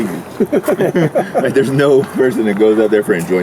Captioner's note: laughing